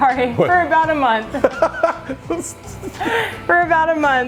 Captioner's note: laughing